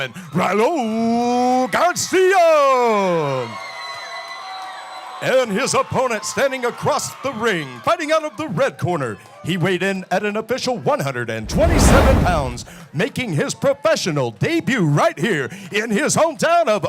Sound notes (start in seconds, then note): 2.7 applause